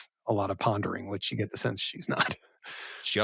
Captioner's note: chuckles